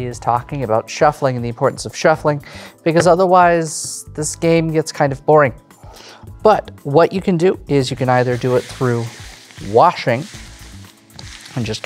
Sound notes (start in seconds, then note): 11.2 cards rustling